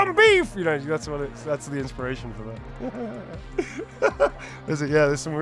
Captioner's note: laughs